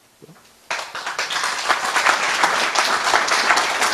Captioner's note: applause